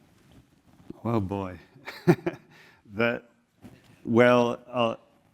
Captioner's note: laugh